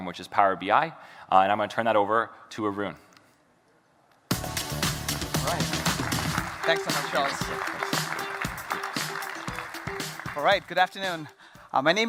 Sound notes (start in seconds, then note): 4.5 upbeat music; 6.0 audience applauding